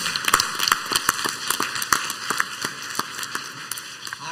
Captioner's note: clapping